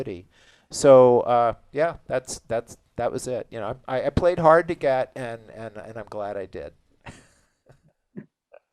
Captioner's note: chuckles